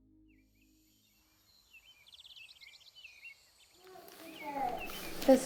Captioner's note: birds